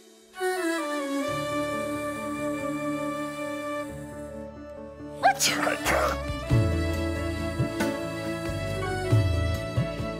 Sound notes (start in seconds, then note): 0.2 emotional music playing; 5.3 both sneezes